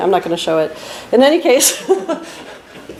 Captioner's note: laughs